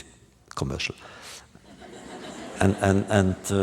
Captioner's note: laughter